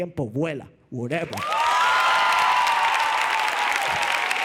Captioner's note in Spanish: Aplausos y vítores